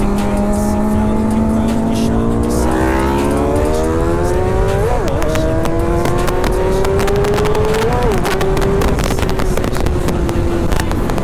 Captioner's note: engine revving